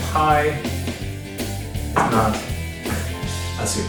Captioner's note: laughing